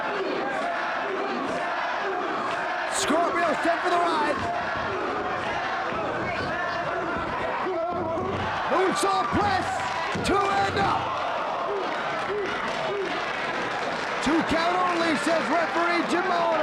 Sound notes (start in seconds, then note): 0.2 crowd chanting; 8.4 presenter speaking faintly off mic